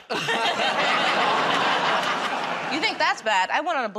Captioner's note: laughter